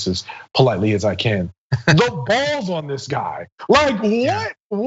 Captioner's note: laugh